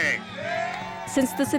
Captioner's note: crowd cheering